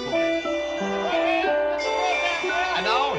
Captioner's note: baseball players yelling